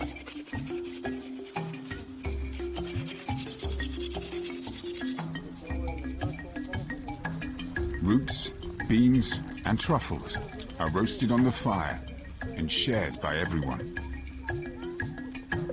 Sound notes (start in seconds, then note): 0.0 dramatic music; 0.0 speaking in foreign language; 6.3 dramatic music; 6.3 speaking in foreign language